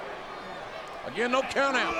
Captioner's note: audience chattering